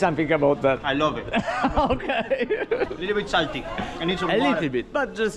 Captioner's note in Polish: śmiech